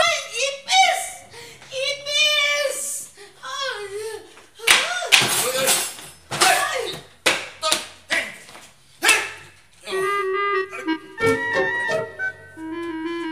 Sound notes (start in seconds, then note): 5.1 cutlery clinking